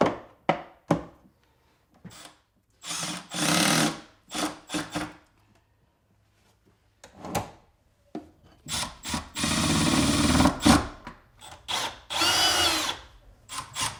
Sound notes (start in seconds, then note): 2.8 tool whirring; 9.4 tool whirring